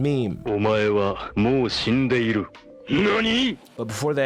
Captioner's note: talking in foreign